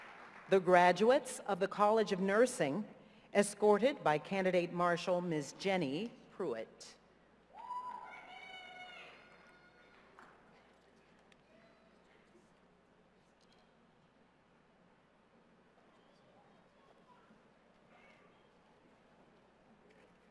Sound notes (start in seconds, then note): 7.1 silence